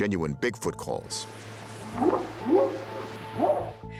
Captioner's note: whooping sound